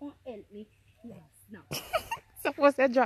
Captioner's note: laughs